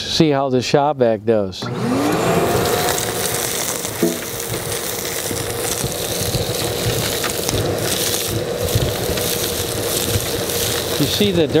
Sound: sound of Shop Vacuum

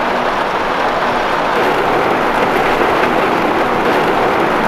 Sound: heavy rain sounds

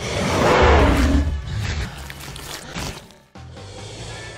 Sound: dinosaur roars

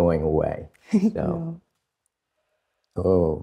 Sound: laughs

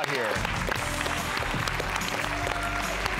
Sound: applause

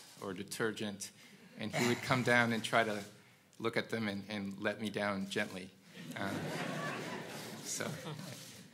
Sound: laugh

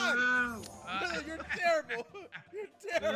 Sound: laugh

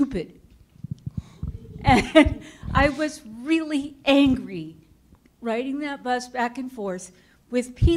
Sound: chuckle

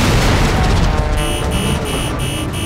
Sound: beeping

